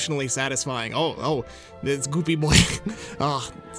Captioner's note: laughs